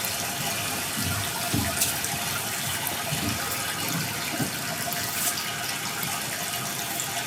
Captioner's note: water trickling continues